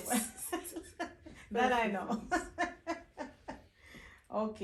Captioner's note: both laughing; laughing